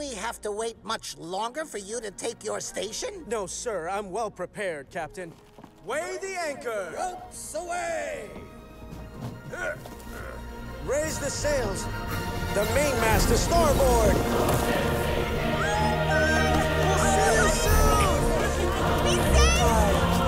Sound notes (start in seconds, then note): 14.2 crowd shouts